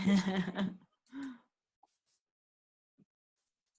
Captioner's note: chuckles